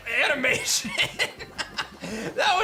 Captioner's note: laughs